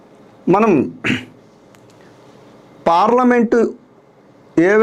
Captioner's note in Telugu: గొంతు సవరించుకోవడం